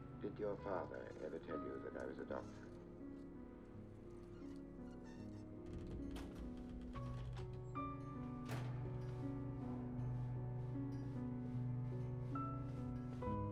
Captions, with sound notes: Did your father ever tell you that I was adopted? (squeaking) (door closes)